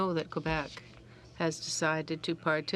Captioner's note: speaking in french